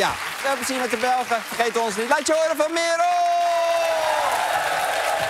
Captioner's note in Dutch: applaus en gejuich